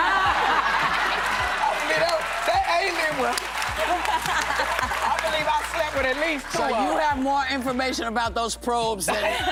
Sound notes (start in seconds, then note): 3.8 laughter